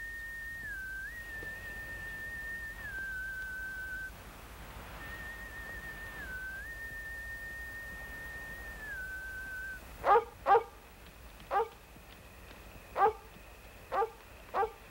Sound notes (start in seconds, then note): 10.0 Shep barking